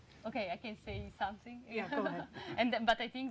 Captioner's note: laughs